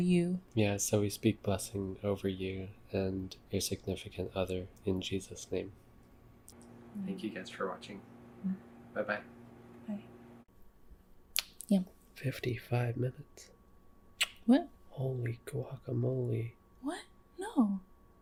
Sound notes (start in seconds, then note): 11.3 kisses; 14.2 kisses